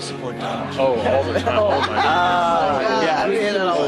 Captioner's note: laugh